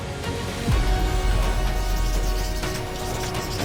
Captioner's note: pen scratches